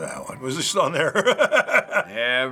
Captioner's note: chuckling